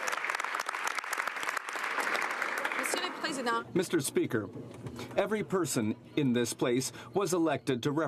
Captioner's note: some Applause